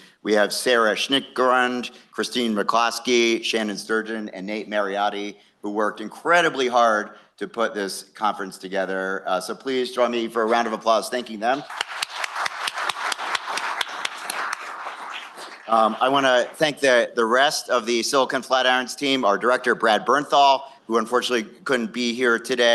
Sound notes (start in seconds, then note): 11.6 applause